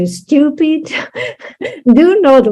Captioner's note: translator laughs